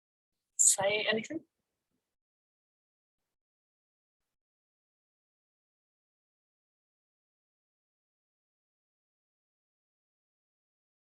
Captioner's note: silence for around a minute